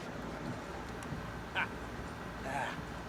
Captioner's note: laughs